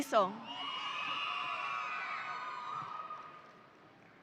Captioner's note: audience cheering